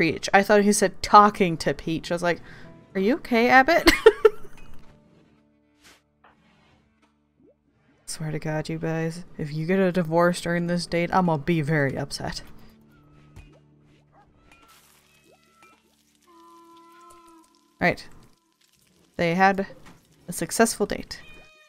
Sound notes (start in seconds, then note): 4.3 laughs